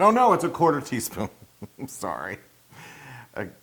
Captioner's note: laugh